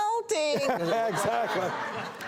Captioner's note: laughter